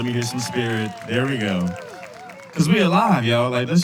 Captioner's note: cheers and applause